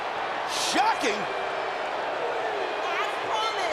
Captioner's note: crowd booing